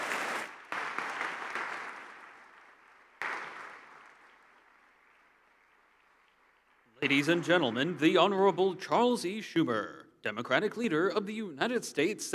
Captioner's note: applause